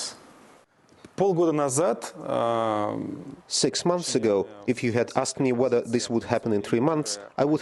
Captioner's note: through translator